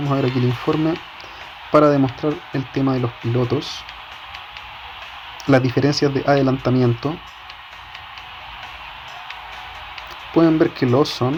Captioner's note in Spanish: ovación